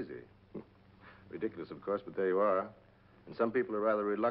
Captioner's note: chuckles